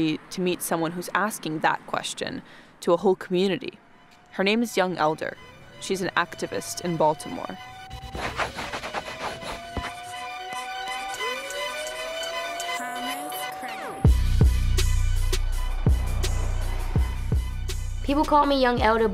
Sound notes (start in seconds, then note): 8.0 pencil scratching; 14.1 upbeat music